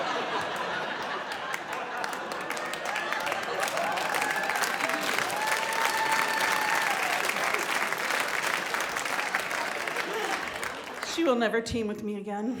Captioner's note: big laugh and applause